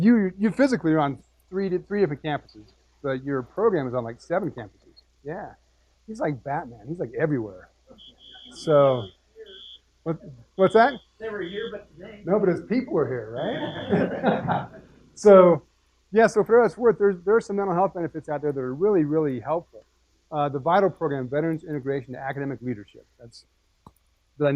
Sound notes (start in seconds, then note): 11.2 laugh